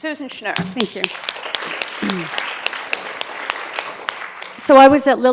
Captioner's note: applause